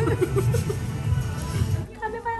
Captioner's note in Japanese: 笑い止まらない…